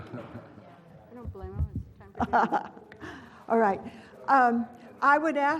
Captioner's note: laugh